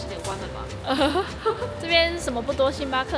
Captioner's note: nervous laughter